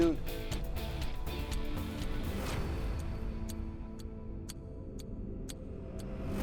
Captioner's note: tense music; clock ticking